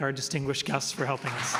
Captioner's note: applause